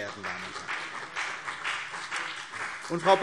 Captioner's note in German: Beifall CDU und BÜNDNIS 90/DIE GRÜNEN